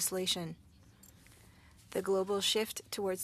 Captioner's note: speaking French